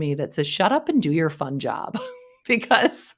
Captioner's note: chuckles